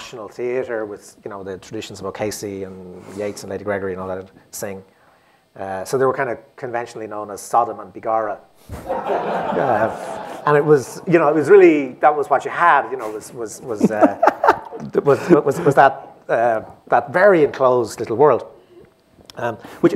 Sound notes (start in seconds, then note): 10.8 laughter